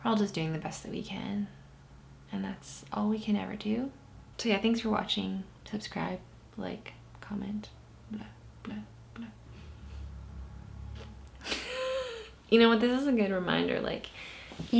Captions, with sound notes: We're all just doing the best that we can, and that's all we can ever do. So, yeah, thanks for watching. Subscribe. Like, comment. Bleh, bleh, bleh. (laughs) You know what? This is a good reminder,